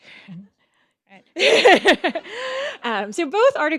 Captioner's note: laughs